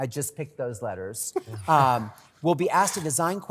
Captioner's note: laughter